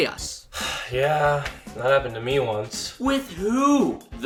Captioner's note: sighs